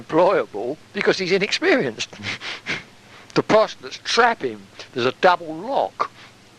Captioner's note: chuckle